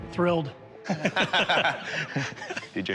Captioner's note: laughter